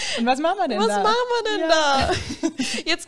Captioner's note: both laugh